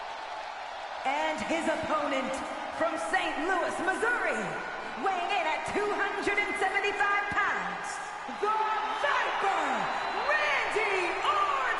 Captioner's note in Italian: Applauso